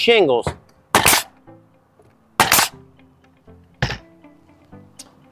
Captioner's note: nail gun thumping